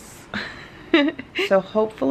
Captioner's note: laughs